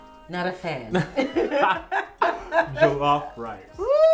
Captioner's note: laughs